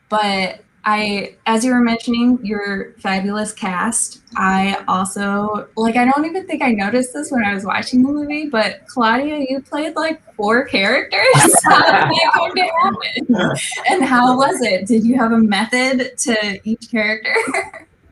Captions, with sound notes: But I, as you were mentioning your fabulous cast, I also I don't even think I noticed this when I was watching the movie, but Claudia, you played like four characters-- (laughing) And how was it? Did you have a method to each character?